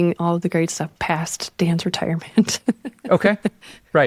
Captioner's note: chuckles